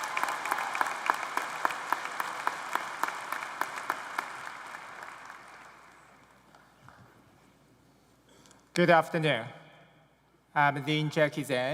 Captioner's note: cheers and applause